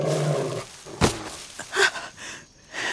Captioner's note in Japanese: うなり声; 荒い息